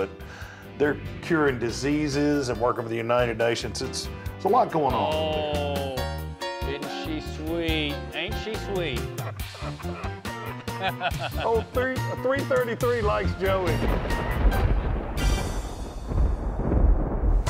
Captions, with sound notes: But they're curing diseases and working with the United Nations; it's a lot going on. - Oh, ain't she sweet, ain't she sweet. (laughing) - Oh 333 likes Joey. (thunder)